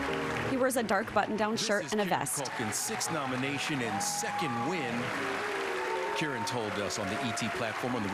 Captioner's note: cheers and applause